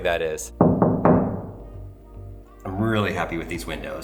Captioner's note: knocks on glass